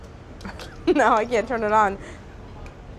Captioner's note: laughs